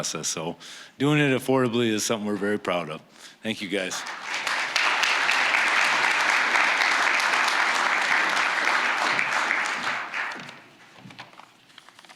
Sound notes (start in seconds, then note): 3.8 applause